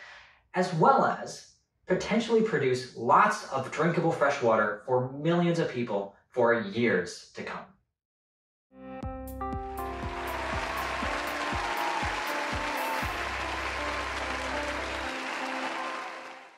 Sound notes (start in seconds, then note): 8.8 upbeat music; 9.7 audience applauding